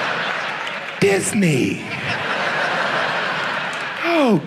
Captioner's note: audience laughs